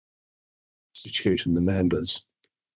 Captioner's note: audio distorts